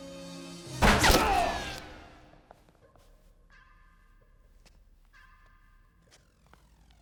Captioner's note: tense music; gunshot fires; Roger cries out